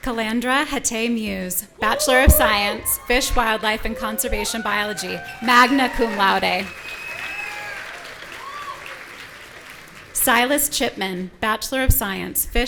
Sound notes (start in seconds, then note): 6.8 audience cheering